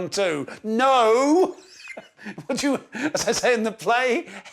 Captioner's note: laughs